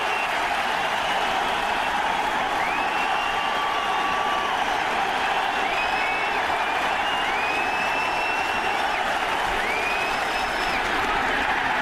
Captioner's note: cheers and applause